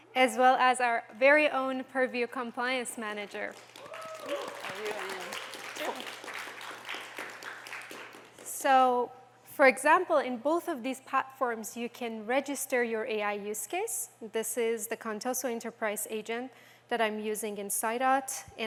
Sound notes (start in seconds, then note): 3.4 applause